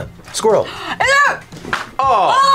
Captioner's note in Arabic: شهقة